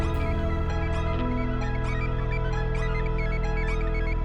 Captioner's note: computer continues to chime